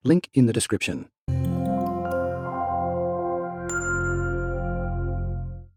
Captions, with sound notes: Link in the description. (gentle music) (text chiming)